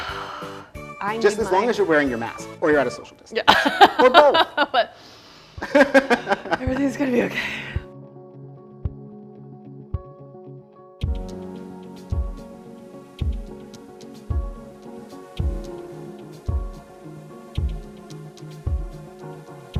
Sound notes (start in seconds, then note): 7.3 breathing